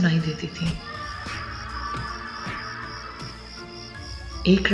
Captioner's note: kid screaming in pain